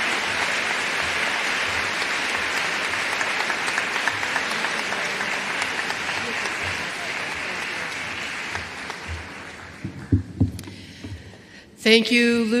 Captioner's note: applause